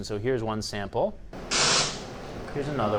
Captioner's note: white noise